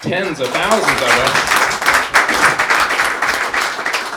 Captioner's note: clapping